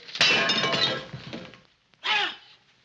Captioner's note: bowl shatters; exclaims